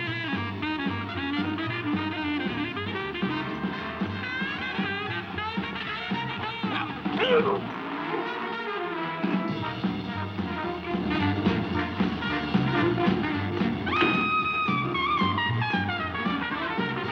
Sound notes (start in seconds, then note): 7.1 Joe grunting; 7.6 uptempo jazz music continues; 14.0 door latching